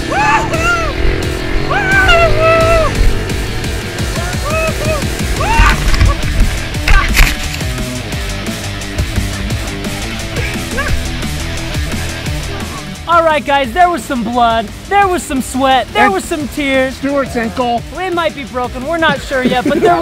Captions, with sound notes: (laughing) - [Voiceover] Yeah! - Alright, guys, there was some blood. There was some sweat. There was some tears. - Stuart's ankle. - It might be broken, we're not sure yet,